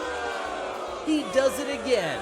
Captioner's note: audience boos